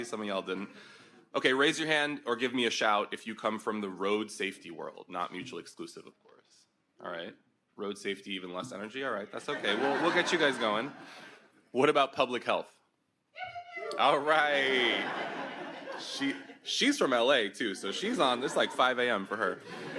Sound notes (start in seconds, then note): 9.4 audience laughs; 13.4 woman yips in the distance